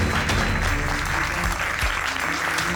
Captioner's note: applause continues